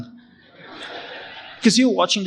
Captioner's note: audience laughing